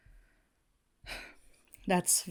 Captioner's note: Hana sighs